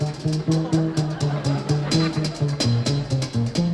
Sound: audience laughing

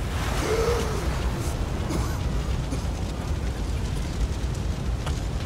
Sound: gasping and coughing

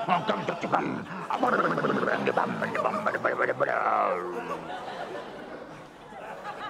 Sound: blubbers

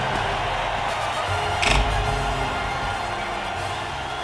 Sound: crowd Cheering

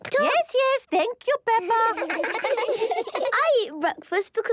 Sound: children laughing

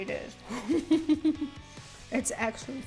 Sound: chuckling

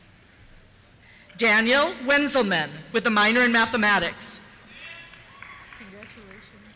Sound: cheers

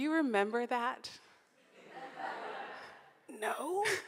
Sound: audience laughs

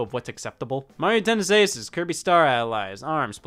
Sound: none

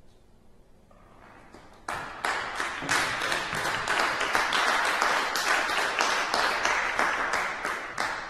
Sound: clapping

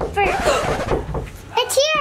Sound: person knocking; vinyl scratching

